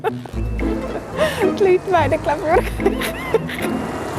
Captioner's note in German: lacht